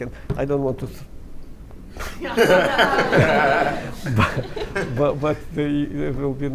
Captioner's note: laughter